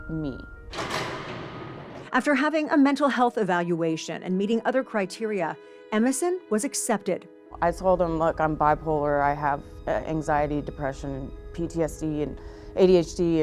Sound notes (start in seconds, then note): 0.6 door opening